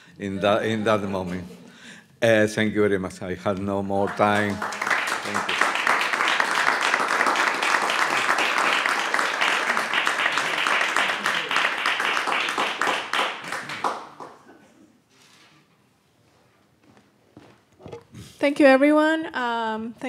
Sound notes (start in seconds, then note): 7.7 audience applauds